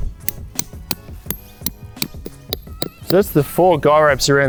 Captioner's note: metallic tapping